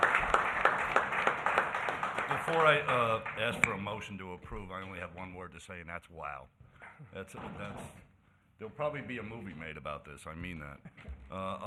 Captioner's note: applause